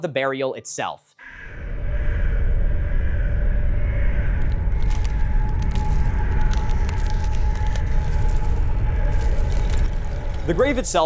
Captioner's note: birds cawing; ambient wind and crackling